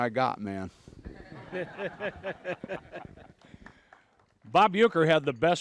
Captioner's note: everyone laughs